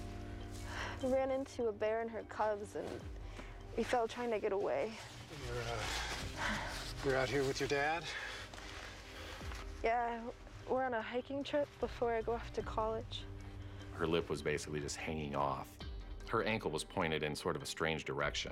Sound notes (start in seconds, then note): none